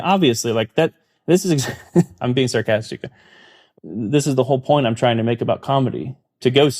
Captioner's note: laughs